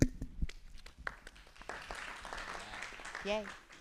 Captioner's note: applause